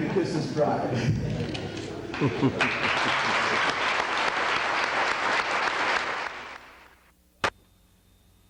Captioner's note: clapping